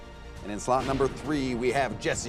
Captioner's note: none